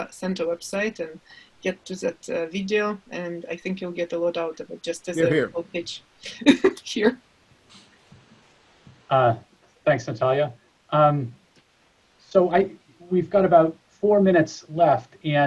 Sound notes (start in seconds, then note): 5.2 chuckles